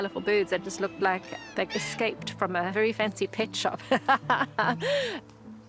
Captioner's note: laughs